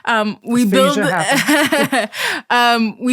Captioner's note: laughs